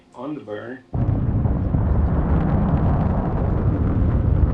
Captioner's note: engine roaring